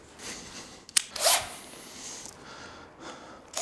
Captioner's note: rapid drill whirring